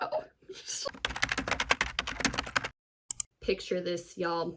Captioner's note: sound of typing on keyboard